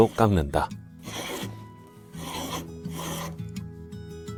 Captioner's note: planing sound